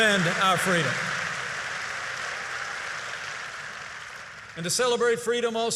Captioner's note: applause